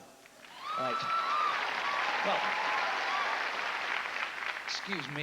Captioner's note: applause